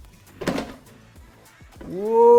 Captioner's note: tray pops